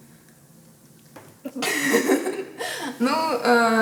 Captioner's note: laughs